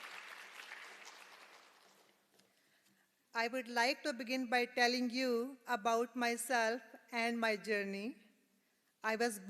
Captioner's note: applause